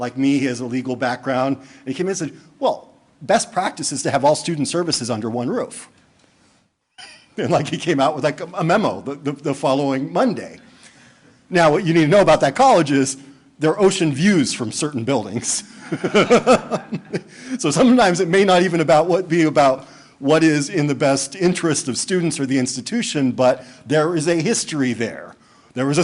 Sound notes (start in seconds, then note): 6.3 laughing; 15.7 laughter